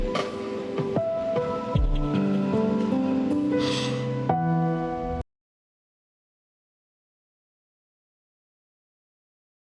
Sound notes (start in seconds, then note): 0.0 serene mournful music; 3.6 Bambi sniffles